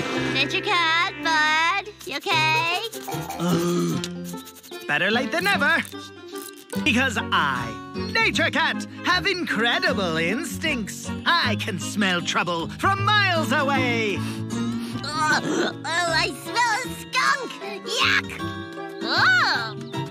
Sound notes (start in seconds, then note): 14.7 sniffs